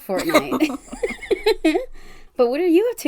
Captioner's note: laughs